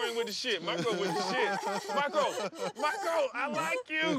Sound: laughter

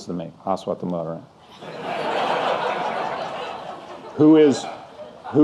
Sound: audience laughing

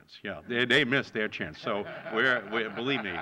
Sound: laughter

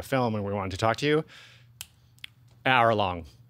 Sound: snapping fingers

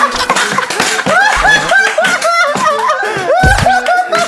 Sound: cracking up

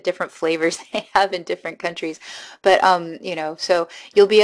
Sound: giggling

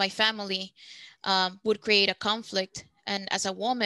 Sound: speaking Spanish

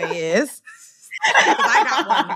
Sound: laughter

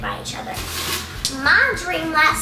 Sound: rustling

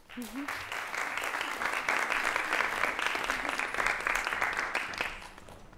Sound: applause

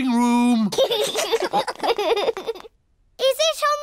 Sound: laughter

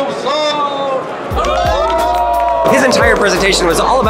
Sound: group cheers

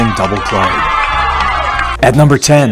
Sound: crowd cheers

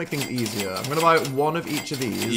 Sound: register dinging

